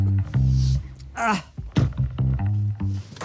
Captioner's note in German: ächzt